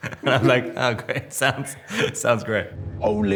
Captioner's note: Robert laughing